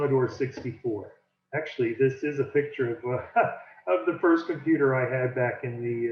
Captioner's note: chuckles